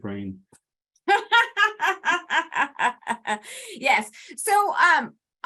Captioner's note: laughs